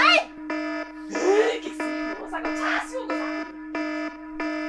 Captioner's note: rage in chinese aunty